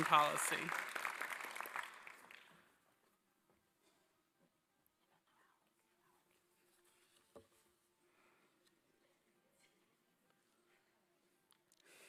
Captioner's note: applause